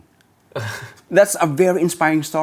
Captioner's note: laughs